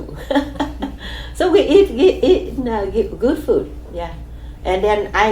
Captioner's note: laughs